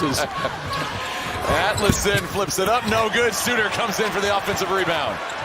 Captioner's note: laughter